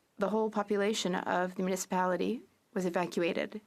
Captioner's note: speaking French